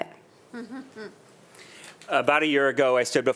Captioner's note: chuckling